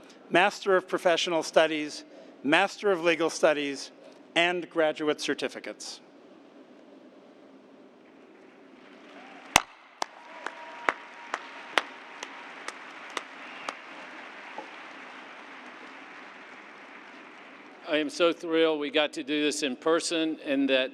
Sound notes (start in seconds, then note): 6.7 cheers and applause